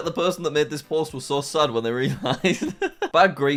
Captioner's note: laughs